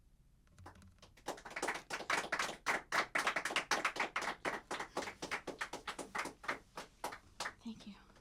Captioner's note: applause